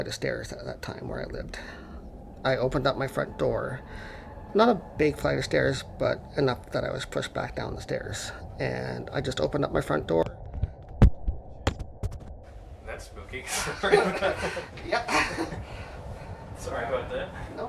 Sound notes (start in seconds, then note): 1.7 unsettling Atmospheric Sounds; 10.1 microphone Drops; 13.4 laughs